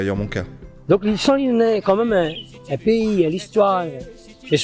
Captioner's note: speaking creole